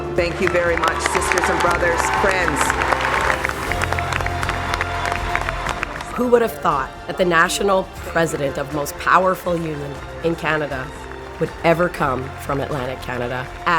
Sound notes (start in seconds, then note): 2.8 vives acclamations et applaudissements